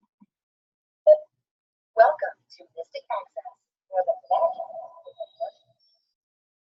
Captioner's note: device making noise